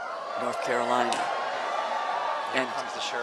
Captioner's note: cheering